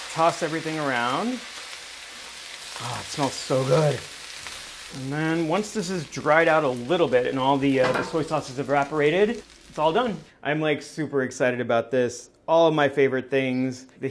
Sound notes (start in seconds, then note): 2.0 sizzling